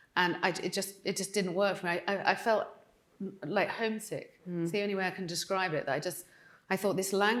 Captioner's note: none